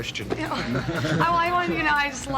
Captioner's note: laughs loudly